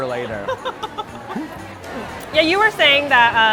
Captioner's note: laughing